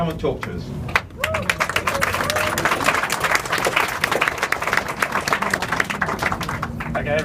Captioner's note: applause